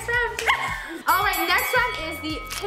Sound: bell dings

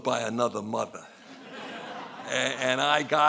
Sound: laughing

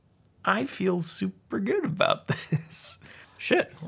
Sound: laughs

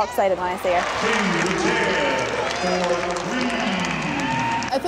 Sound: applause

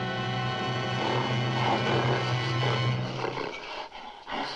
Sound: gorilla snorting

